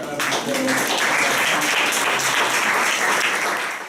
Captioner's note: applause